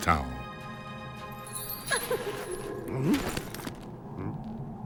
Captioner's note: faint cry